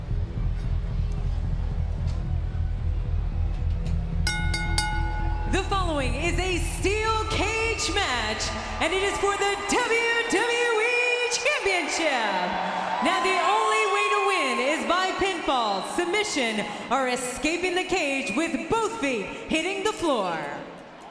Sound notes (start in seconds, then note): 0.2 ominous pulsing continues; 4.2 bell dings